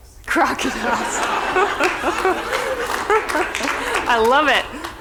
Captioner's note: laughter